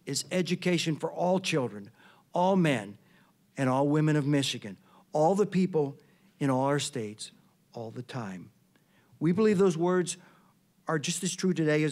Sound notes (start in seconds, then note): none